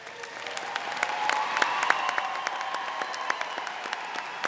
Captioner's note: audience cheers